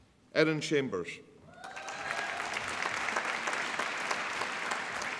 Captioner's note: applause